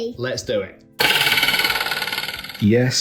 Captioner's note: object boings